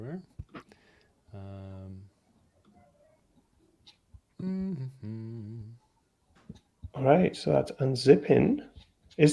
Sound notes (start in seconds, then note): 4.4 hums